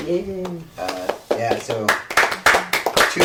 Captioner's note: clapping